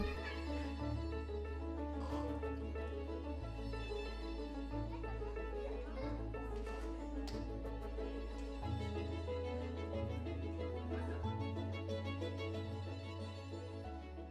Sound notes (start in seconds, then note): 0.1 gentle orchestral music; 4.5 kids laughing